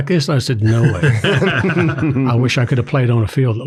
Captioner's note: everyone laughs